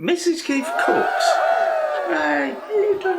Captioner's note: cheerin